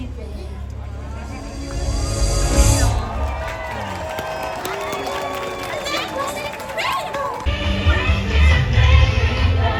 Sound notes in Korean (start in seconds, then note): 3.0 박수